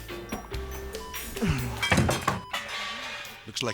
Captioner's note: comical music; machine beeping; doctor groans and thuds